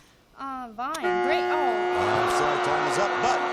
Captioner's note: buzzer